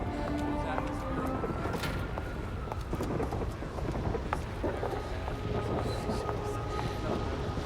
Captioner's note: footstep